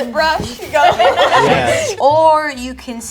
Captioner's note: group laughs